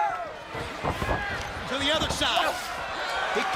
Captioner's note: crowd cheering